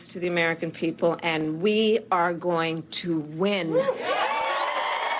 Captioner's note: applause